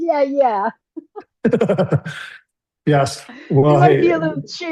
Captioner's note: laughs